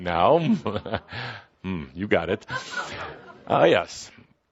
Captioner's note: laughing